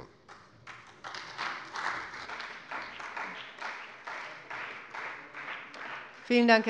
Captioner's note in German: Beifall bei der CDU und dem BÜNDNIS 90/DIE GRÜNEN